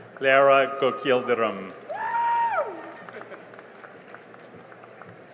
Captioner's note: cheering and applause